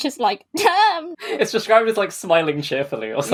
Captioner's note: laughing